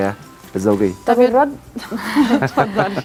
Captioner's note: laugh!